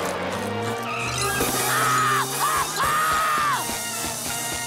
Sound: screaming

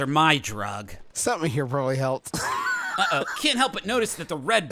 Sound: laughs

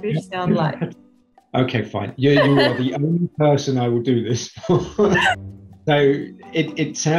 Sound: laughs

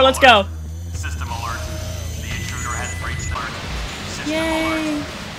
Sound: sirens, music

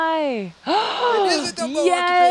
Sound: gasps

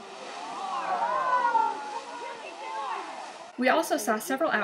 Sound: cheering

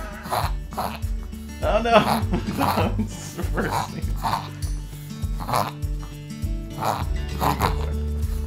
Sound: dog reverse sneezing; laughing; laughs

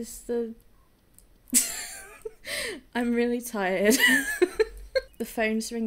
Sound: laughing

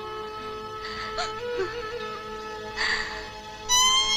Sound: sobbing

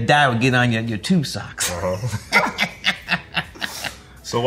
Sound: RJ and Spike laugh

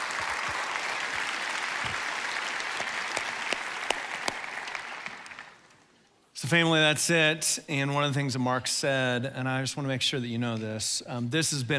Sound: applauding

